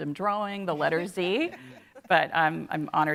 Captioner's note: laughing